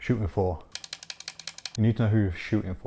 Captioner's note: camera clicking